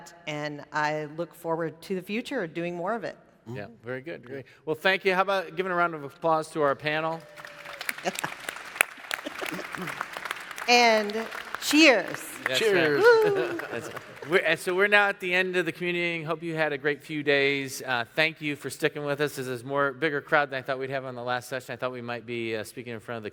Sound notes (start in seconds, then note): 6.6 audience clapping; 12.4 chuckles